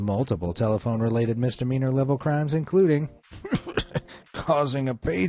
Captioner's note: laughs